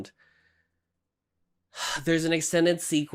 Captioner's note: sigh